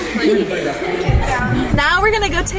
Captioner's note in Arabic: يضحك